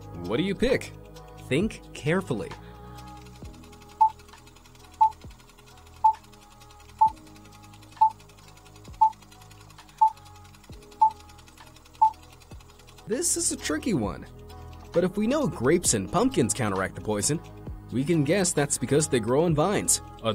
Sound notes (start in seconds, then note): 4.1 projector whirring; 5.0 beeping